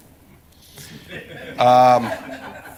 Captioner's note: laughter